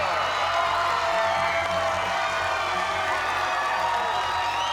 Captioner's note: cheers and applause